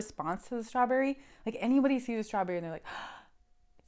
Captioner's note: gasp